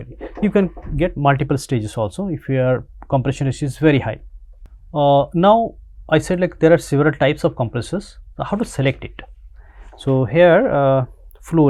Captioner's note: choke